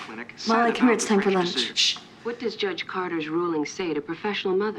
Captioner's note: none